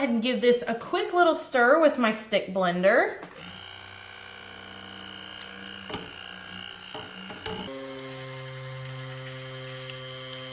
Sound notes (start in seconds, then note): 3.3 whirring